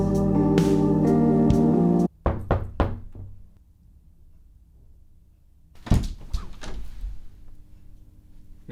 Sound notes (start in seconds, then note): 2.2 knocking on door; 5.8 door opening